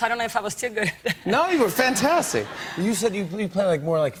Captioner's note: laughter